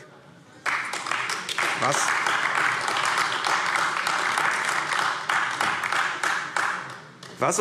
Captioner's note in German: Beifall AfD